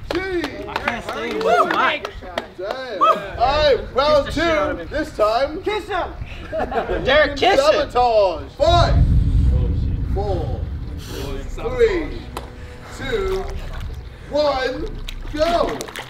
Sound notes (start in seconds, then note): 0.0 clapping; 6.6 laughing